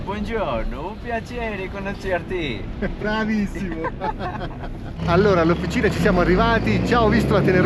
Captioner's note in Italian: risate